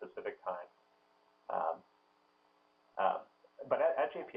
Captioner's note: pause